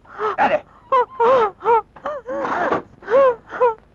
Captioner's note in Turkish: Kızın inlemeleri